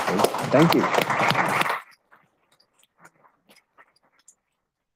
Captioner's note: audience applauds